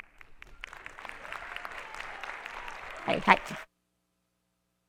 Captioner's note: attendees applauding